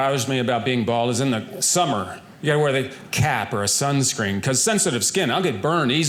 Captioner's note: none